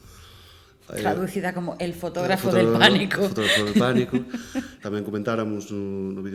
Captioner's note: laughter